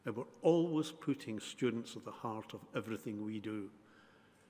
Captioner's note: none